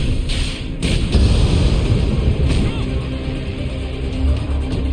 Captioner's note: explosion booming